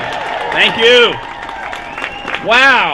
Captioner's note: applause